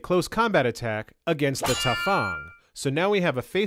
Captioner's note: clannng!